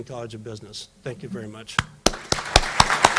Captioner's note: applause